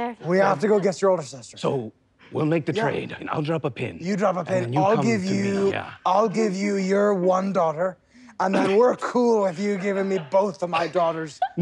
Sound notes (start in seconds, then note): 5.9 sneezes; 8.5 sneezes